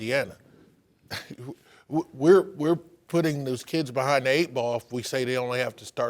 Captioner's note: laughs